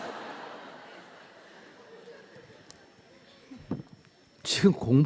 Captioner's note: audience Laughter